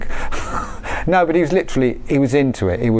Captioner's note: chuckles